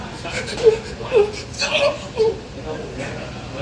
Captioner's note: gasping